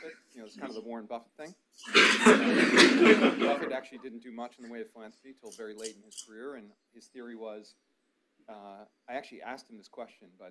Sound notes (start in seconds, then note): 1.8 audience laughs